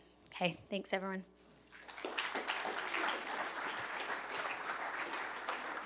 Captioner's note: applause